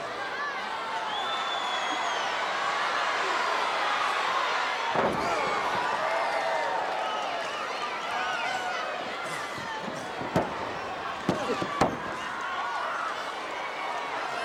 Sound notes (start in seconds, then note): 0.2 audience chattering; 8.9 mat banging